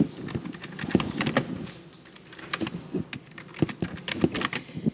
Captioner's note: mic rumbling